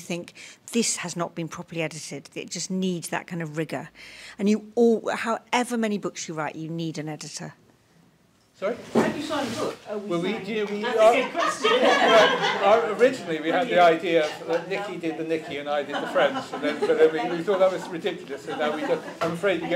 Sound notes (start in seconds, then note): 10.9 laughter